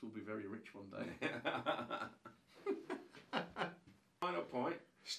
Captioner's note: both laughing